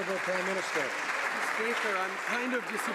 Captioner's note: some Applause